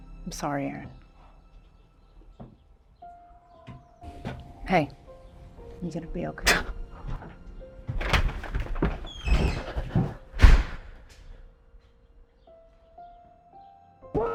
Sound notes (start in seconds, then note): 6.4 Arawn scoffs and whimpers; 7.8 door clicks and slams; 11.3 soft dramatic music continues